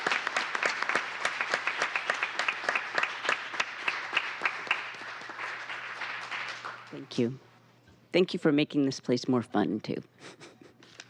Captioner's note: applause